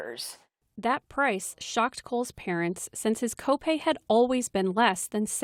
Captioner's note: voice-over